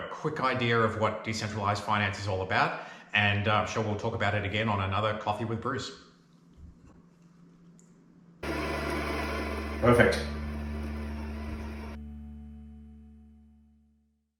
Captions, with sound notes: a quick idea of what decentralized finance is all about. And I'm sure we'll talk about it again on another Coffee with Bruce. (machine whirs) Perfect.